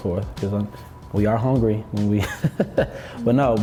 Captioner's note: chuckles